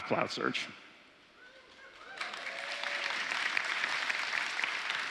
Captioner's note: applause